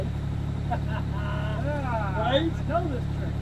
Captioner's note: both laughing